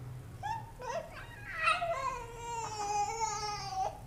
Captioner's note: baby giggling